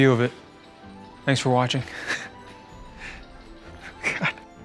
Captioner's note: laughs